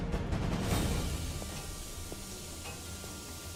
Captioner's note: steam hissing